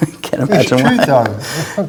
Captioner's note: laughs